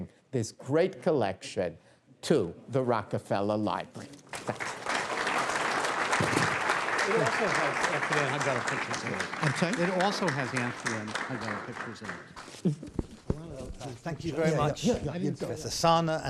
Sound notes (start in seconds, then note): 4.4 applause